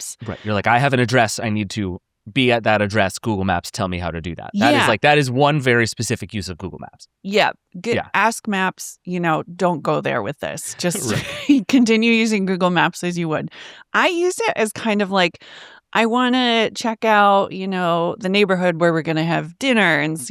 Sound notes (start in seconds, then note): 10.7 chuckles